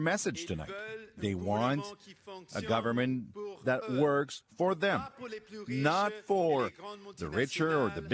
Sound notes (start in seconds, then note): 2.1 speaking in French